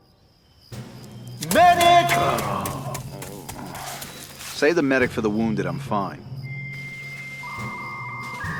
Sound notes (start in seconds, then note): 2.0 Lynch groaning; 6.5 dial-up sounds